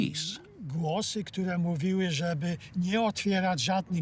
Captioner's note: in Polish